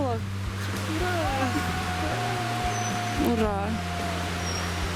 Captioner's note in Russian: кто-то кричит